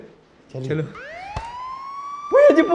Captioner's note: police siren